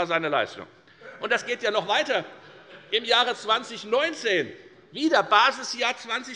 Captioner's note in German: Heiterkeit und Beifall bei der FDP und bei Abgeordneten der SPD